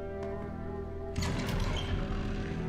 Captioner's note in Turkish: Kapı sesi